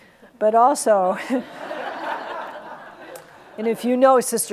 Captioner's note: audience laughs